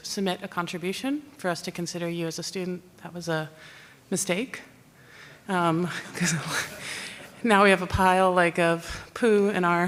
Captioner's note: laughter